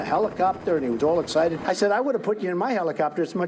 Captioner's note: helicopter beating